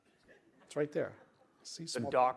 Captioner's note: laughter